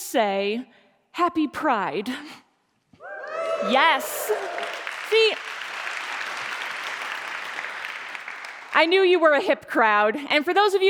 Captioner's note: cheering and Applause